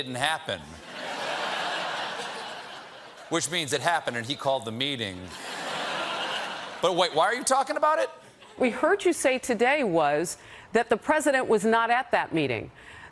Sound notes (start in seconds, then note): 5.3 laughter